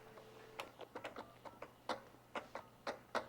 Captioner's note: dialing